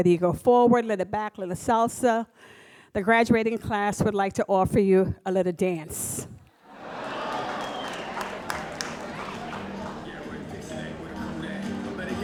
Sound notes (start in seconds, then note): 6.7 audience applauds